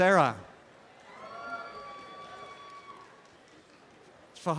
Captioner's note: applause and cheering